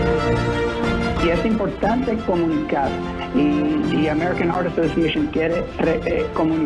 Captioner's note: speaking in foreign language